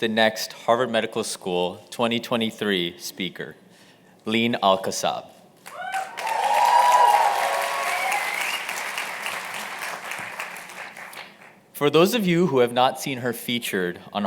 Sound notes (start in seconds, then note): 5.6 cheers and applause